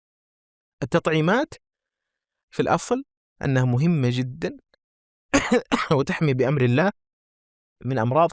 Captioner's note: he coughs